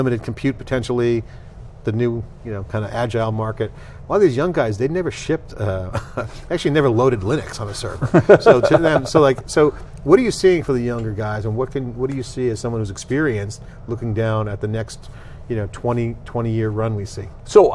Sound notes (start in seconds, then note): 8.0 laughing